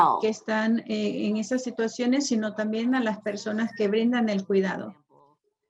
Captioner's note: woman speaks foreign language